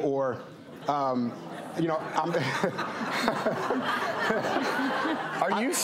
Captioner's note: audience uncomfortably laughing